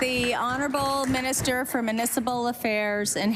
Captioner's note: applause